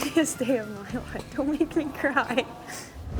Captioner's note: laughing